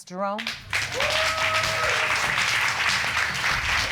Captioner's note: audience cheering, applauding